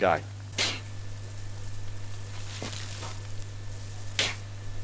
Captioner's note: spade crunches into soil